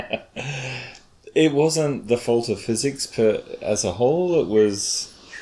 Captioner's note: chuckles